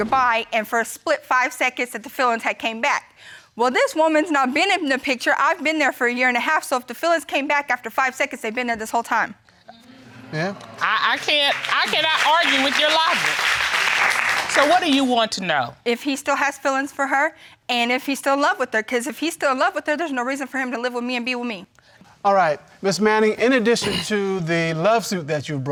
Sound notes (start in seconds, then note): 13.2 audience applauding